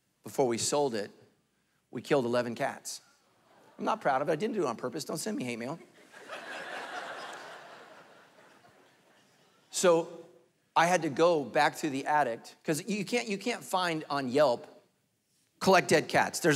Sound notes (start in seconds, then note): 5.7 congregation laughing